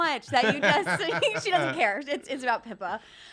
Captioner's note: laughing